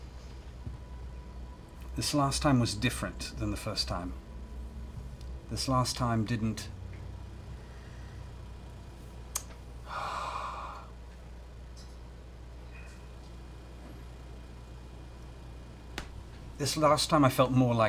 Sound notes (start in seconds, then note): 9.8 sighs